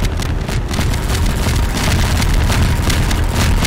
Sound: gunfire

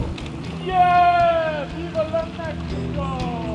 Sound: shouting

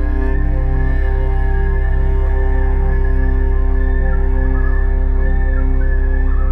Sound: loons wailing

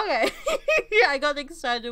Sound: laughter

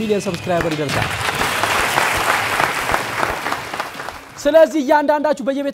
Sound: applause

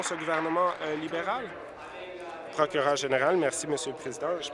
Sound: applause

